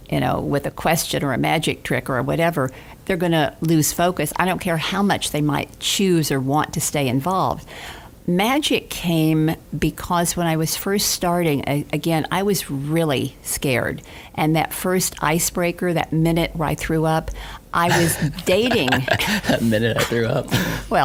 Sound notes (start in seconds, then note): 17.8 laughing; 20.6 laughs